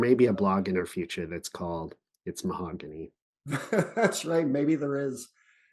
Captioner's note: chuckles